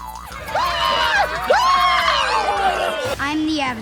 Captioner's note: screaming